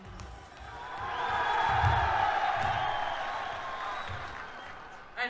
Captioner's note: strong Cheers